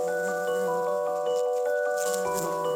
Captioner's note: bee buzzing